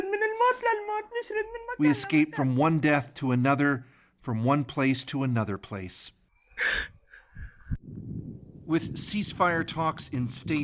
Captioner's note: speaking alternate language